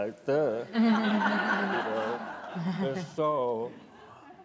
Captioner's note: laughing